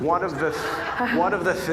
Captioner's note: audience laughing